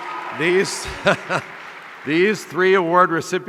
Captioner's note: chuckles